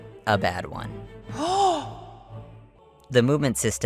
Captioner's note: gasp